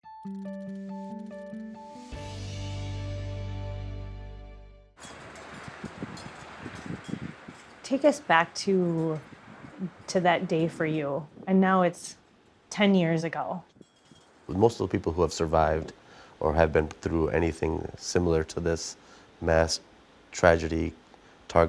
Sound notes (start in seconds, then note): 0.0 calm music playing; 5.0 bells tinkling; 5.0 wind howling